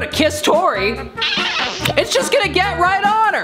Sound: kissing sound

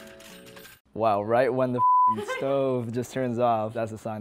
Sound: beep

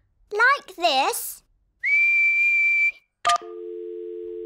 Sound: whistles; dial tone beeping

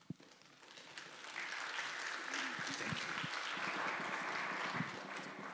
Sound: applause

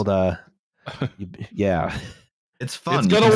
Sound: scoffs

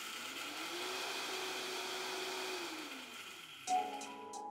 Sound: coffee grinding

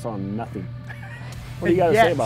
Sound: laughs

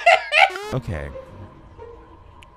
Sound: laughs; video buzzes

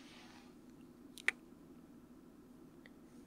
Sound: kiss

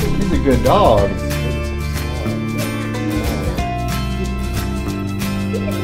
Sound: murmurs

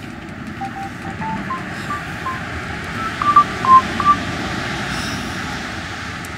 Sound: mobile phone rings

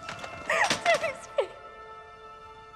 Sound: sobbing

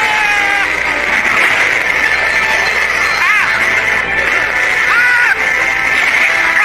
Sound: hollering; wires scraping

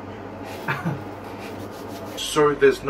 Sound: chuckles

